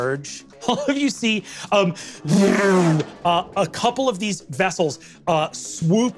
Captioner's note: vocalized whizzing